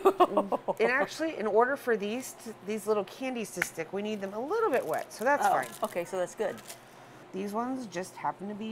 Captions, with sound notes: (laughing) - It actually, in order for these little candies to stick, we need them a little bit wet. So that's fine. - Okay, so that's good.